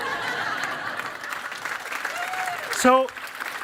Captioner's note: chuckling; applause